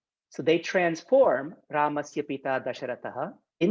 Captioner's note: speaking in Sanskrit